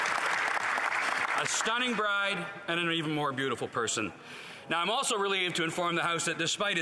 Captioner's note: applause